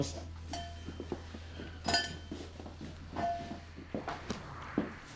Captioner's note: footsteps, doorbell clangs; thuds against shoulder